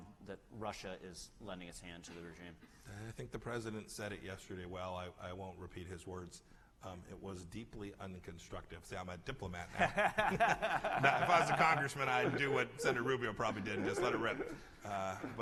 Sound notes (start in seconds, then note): 9.7 laughter